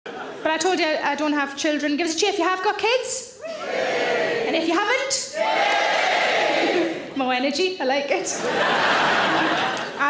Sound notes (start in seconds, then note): 5.3 audience cheering; 5.3 audience cheering louder; 8.3 audience laughing